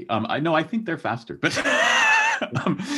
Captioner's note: laughs